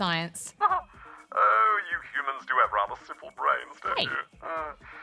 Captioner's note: laughs